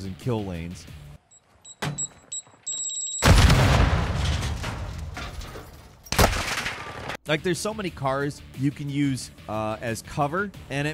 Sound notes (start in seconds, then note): 1.2 equipment beeping; 3.2 explosion blasting